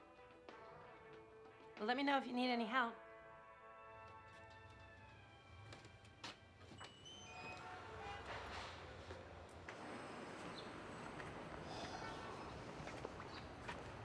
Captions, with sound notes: Well, let me know if you need any help. (traffic clamors) (sighs)